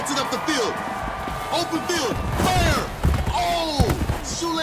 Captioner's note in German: Dumpfe Geräusche